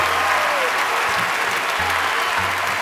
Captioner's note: cheering